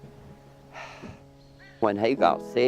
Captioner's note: sighs